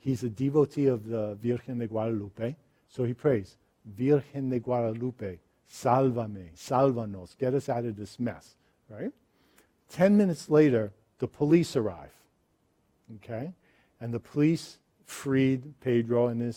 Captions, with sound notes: He's a devotee of the Virgen de Guadalupe, so he prays, "Virgen de Guadalupe, "(speaks in foreign language) "get us out of this mess." 10 minutes later, the police arrive. The police freed Pedro